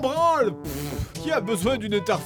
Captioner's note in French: Pfft